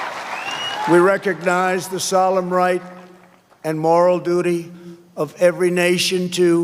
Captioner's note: cheers and applause